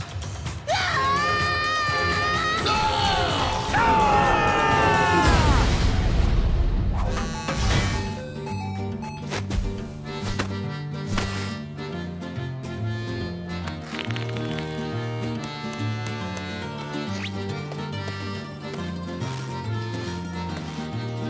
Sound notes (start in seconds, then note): 0.3 screaming; 7.0 buzzing, chiming; 13.6 cracking